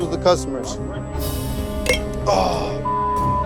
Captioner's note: clink